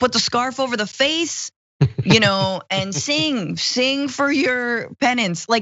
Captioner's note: laugh